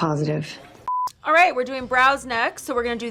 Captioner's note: beep